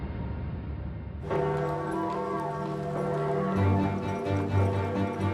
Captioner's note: dramatic music; bells ringing; dramatic music